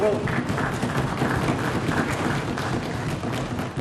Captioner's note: applause